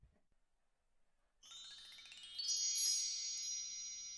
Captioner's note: chimes